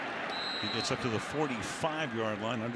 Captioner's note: whistle blows